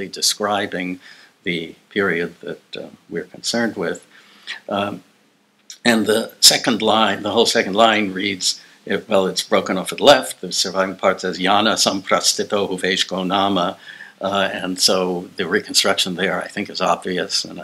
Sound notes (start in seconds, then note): 12.4 speaking non-english